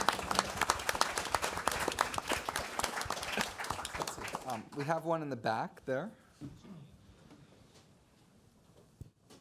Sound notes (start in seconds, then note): 1.5 audience applauds